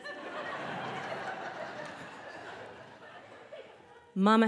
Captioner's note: audience laughing